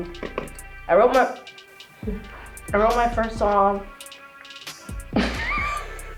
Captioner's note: giggles; laughs